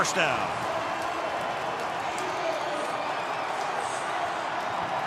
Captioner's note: cheering